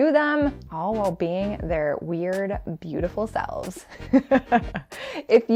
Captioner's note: laughs